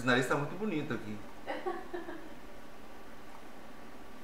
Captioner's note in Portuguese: risos